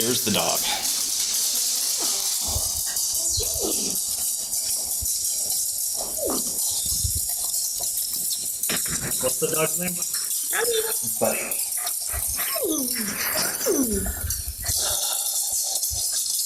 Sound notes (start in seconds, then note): 1.9 dog skittering